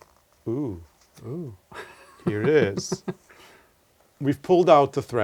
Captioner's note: laugh